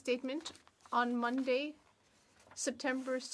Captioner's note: speaking French